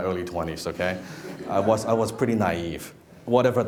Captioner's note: laughing